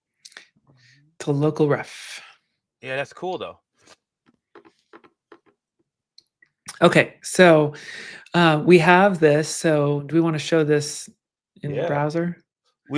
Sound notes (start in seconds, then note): none